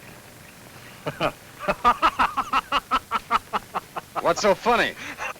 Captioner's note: Frank laughs